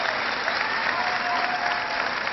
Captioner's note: cheering